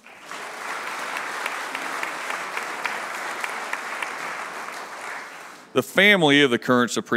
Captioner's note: applause